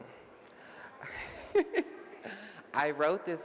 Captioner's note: laughs